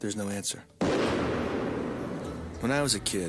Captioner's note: loud bang